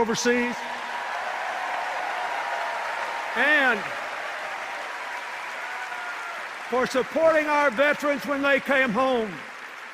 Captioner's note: cheers and applause